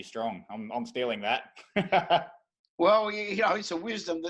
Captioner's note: laughing